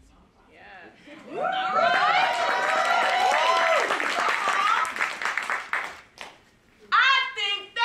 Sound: applause

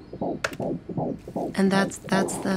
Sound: keyboard clank

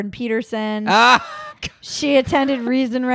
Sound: laughs loudly

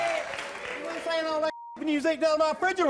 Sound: audience clapping; beep

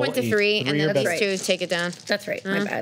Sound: overlapping chatter

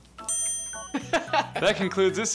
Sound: dinging

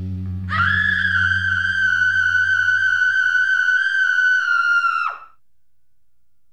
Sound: woman screams

